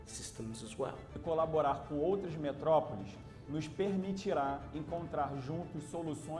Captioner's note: speaking Portuguese